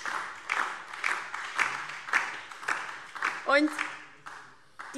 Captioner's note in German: Beifall DIE LINKE und SPD